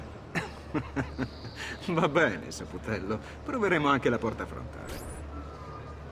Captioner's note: laughs